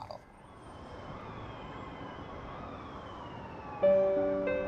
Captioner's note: sirens